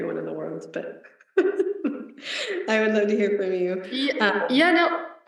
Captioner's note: laughs